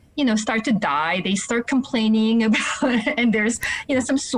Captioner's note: laughing